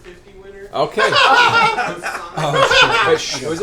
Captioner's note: laughter